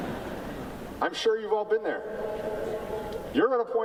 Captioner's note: laughter